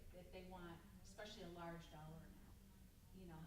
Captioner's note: stammers